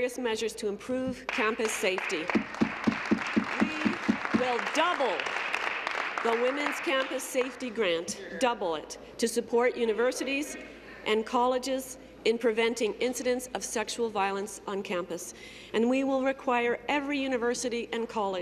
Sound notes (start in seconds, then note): 6.2 applause